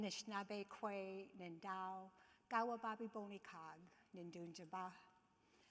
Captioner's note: speaking in foreign language